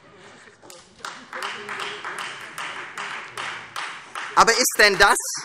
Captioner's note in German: Beifall Freie Demokraten